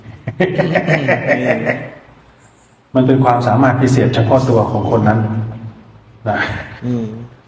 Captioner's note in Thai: เสียงหัวเราะ